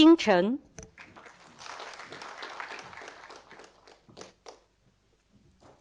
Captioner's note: audience applauding